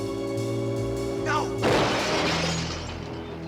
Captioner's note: gunshot